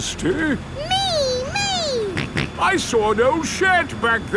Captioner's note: snorts